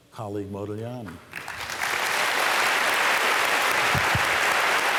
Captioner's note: applause